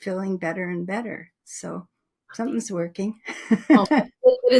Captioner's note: laughs